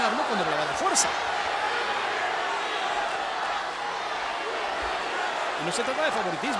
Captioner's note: applause